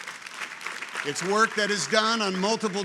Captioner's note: people clapping